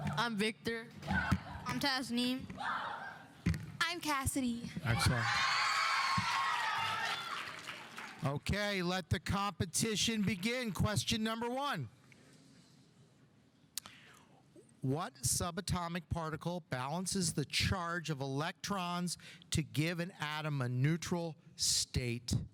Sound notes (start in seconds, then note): 4.9 audience cheering; 5.1 audience applauding